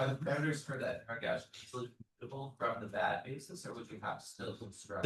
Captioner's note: speaks faintly